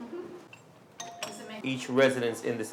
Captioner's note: doorbell rings